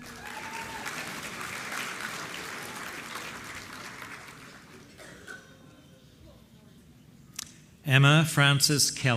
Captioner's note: applause